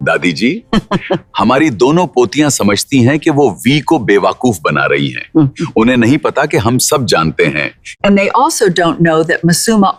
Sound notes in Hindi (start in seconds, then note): 0.7 हंसी; 7.4 गला साफ़ करने की आवाज़